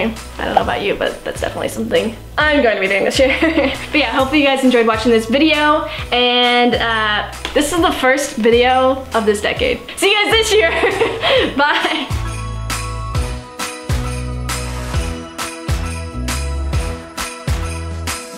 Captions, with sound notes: I don't know about you but that's definitely something I'm going to be doing this year. Hopefully you guys enjoyed watching this video and this is the first video of this decade. See you guys this year, bye! (laughing) (lively music)